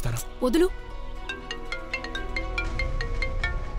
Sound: phone ringing

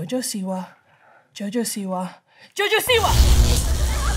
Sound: electricity crackling

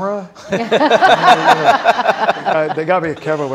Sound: audience laughing

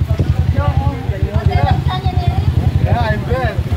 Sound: people mumbling

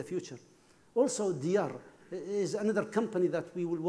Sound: speaking foreign language

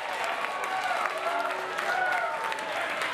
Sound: crowd cheering

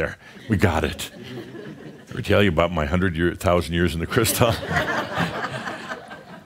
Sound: some chuckles; laughter

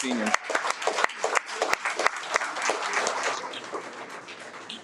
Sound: audience applauds

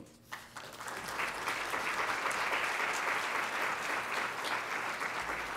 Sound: audience applauds

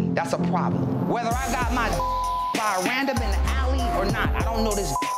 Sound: beep; beep

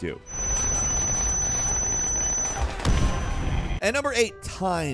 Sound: guns blasting

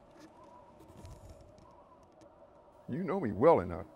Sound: wind whistles

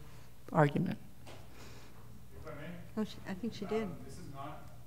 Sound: speaking off the mic

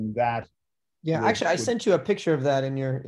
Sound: sharp Voice

